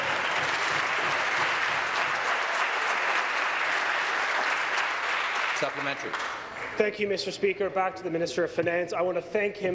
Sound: applause

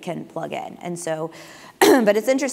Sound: cough

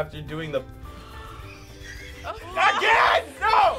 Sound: snickering; gasping

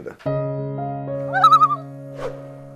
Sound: loon call

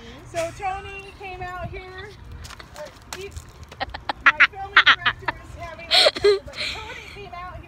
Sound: background laughter; more laughter

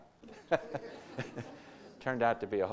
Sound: audience laughter

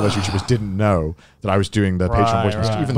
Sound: all laughing

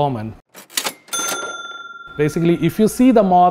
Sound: cash register ding

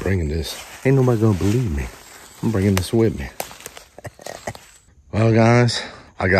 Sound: laughing

